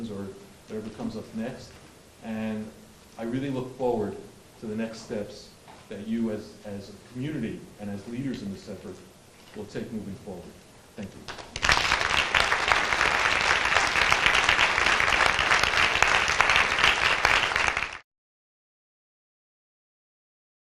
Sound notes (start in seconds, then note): 11.2 applause